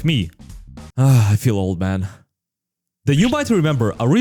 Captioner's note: sigh